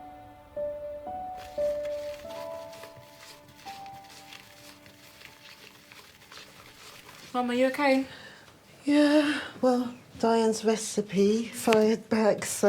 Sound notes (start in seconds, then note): 0.0 sentimental music; 1.4 spatula stirring